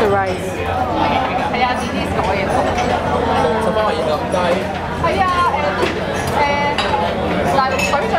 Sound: loud chattering and clinking of ceramic ware

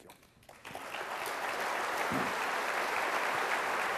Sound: applause

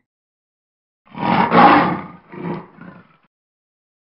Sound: lion roaring

